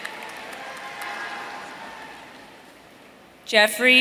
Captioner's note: audience cheering